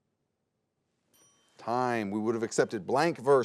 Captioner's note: bell dings